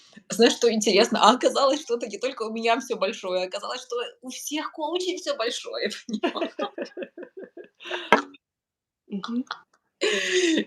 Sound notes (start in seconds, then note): 6.1 laugh